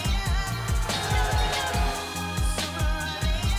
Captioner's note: cheering